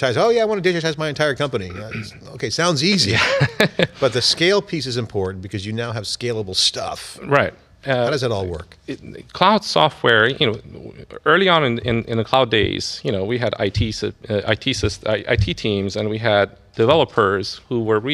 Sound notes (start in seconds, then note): 2.9 laughter